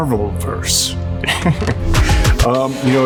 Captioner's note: chuckles